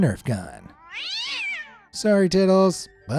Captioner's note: cat screeching